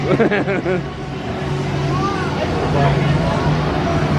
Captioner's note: laughing